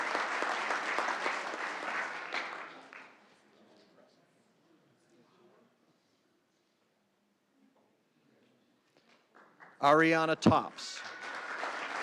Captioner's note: applause